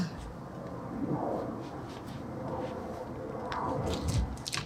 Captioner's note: worker sighing